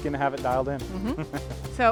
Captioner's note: laughs